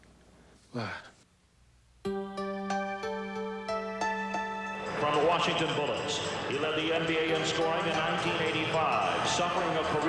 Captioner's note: sighs